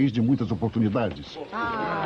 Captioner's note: crowd chuckles